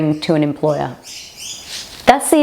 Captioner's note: bird chirping